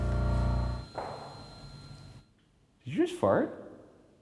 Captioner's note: fart pops